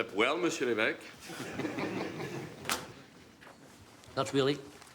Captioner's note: men laughing